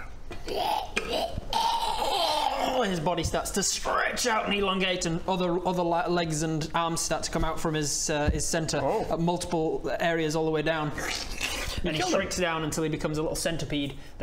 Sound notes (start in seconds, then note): 1.5 ergghgghgglgl; 11.0 klccrrkccch